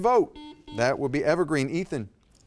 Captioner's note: buzzer dings